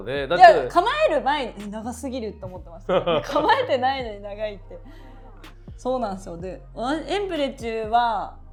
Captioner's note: laughs